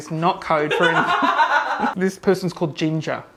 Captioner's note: woman laughs